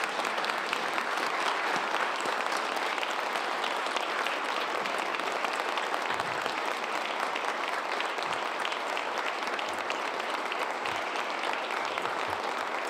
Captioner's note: applause